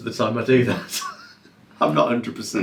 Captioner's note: laughing